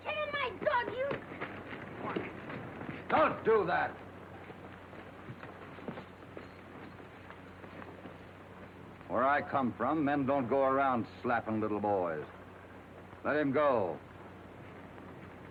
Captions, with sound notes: - Quick kickin' my dog, you! (Joey and Bailey scuffle) - Don't do that. (spurs jingling) Where I come from, men don't go around slappin' little boys. Let him go.